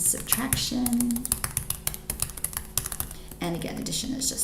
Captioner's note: keyboard clicks